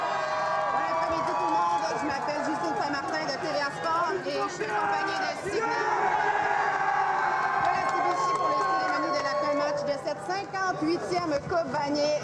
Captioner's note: cheers and Applause